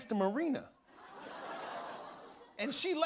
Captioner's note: audience ohhs